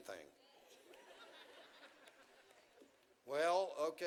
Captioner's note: audience chuckles